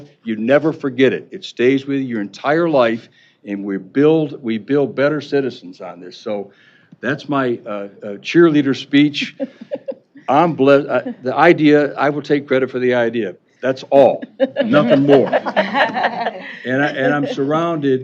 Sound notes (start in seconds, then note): 14.1 laughter